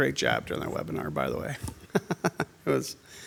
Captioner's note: chuckles